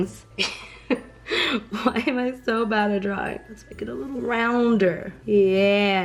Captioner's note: laughing